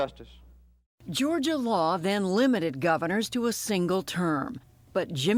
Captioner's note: voice-over